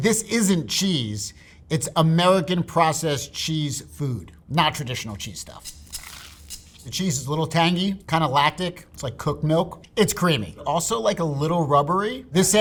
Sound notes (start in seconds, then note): 5.5 sandwich rustling; 5.7 rattling